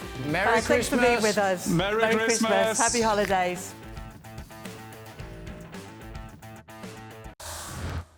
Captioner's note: laughter